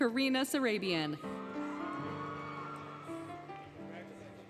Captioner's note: cheering, Music